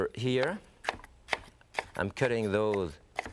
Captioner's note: knife thudding